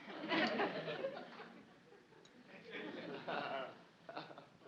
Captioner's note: audience laughs